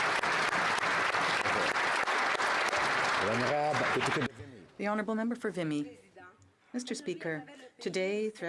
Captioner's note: applause